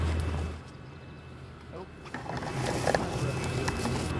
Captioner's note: machinery humming